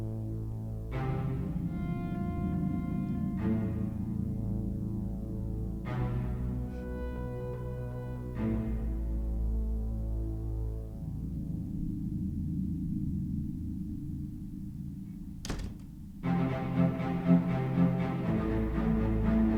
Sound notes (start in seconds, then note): 15.2 front door shuts; 17.4 music quickens